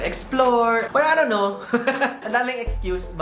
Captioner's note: laughs